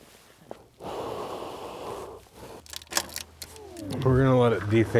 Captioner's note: blows hands; system rebooting